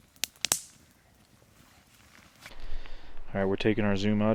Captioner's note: fire crackling